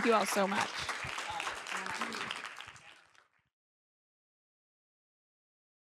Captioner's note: applause